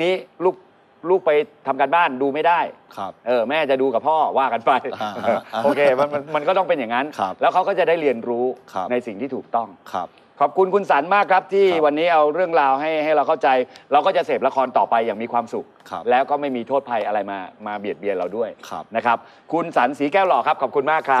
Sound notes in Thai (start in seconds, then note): 4.9 หัวเราะ